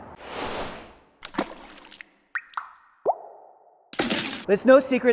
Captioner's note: water dripping and splashing